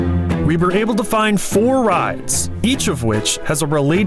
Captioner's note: none